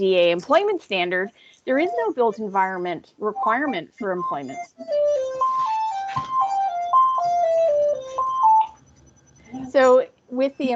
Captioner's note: phone ringing - Pause